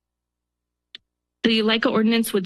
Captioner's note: pause